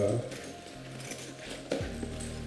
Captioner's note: rummaging